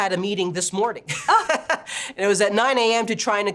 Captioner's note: laughing